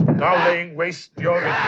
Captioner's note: As Pazuzu, vocalizing